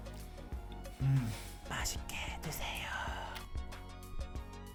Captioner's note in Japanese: ささやき